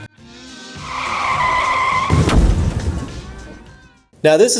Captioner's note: tires squeal